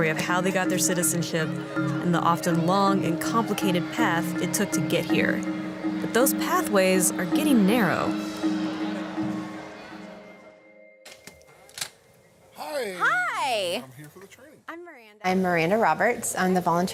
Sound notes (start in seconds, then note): 11.1 door opens